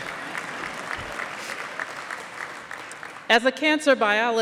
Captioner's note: applause